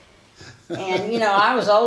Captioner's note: laughs